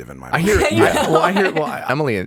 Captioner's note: laughing